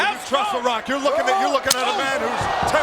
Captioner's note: presenter speaking faintly off mic